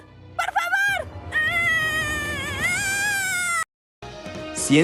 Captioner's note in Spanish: gruñe y grita de frustración